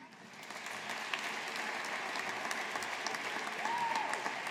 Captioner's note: audience applauding